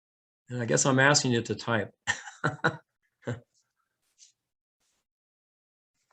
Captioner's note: laughs